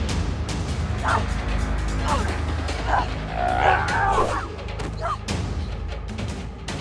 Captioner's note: dramatic orchestral music; grunting